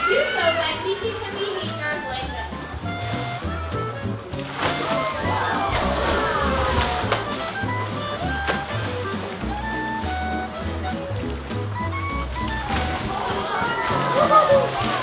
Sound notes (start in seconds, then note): 3.7 upbeat guitar music; 4.8 audience cheering